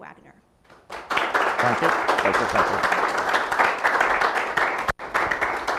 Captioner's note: audience applauding